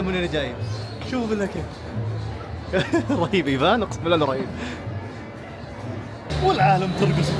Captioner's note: laughs